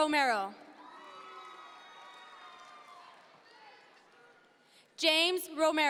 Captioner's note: audience members cheer